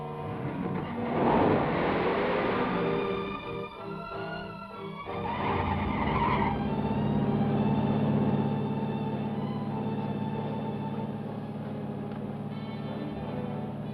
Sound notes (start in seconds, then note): 1.0 engine revs; 5.1 tires squeal